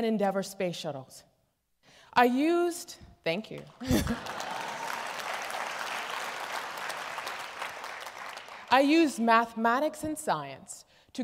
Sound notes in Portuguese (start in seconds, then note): 3.6 Aplausos